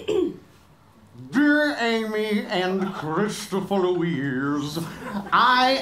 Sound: clears throat; plummy gent voiceover

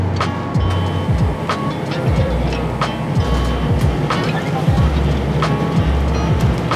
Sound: gentle music continues; machinery humming

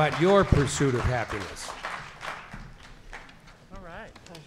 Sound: clapping

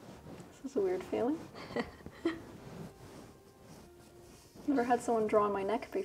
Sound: chuckling

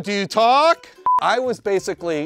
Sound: beep

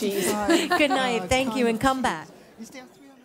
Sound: laugh

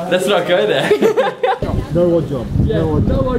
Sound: laughs

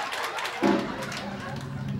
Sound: <i> applause</i>; <i> drumroll plays</i>

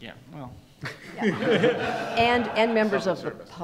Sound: audience and panelists laugh

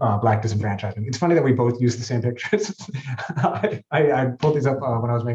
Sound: laughing

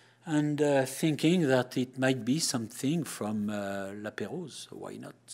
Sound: none

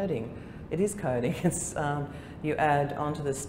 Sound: laughter

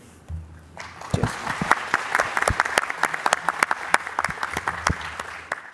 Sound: applause

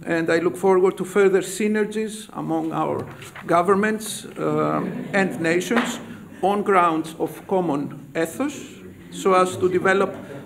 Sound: laughter

